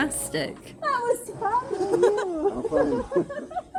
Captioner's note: laughing